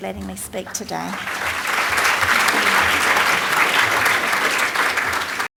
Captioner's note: applause